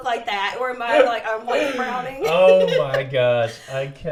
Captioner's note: laughs